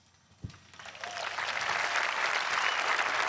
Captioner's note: applause